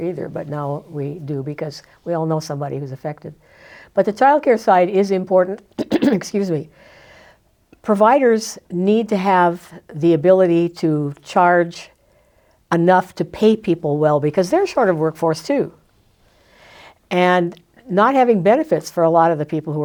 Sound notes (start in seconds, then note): 5.8 clears throat